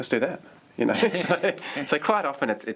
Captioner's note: laughter